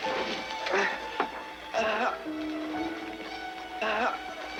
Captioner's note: Tater groaning